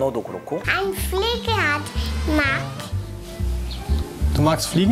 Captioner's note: in German